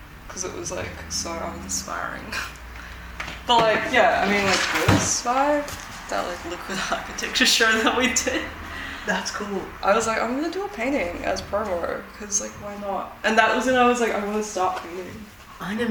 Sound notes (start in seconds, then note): 2.9 laughs; 3.7 canvas rustling; 6.6 laughs